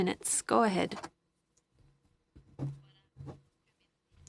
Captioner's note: speaking french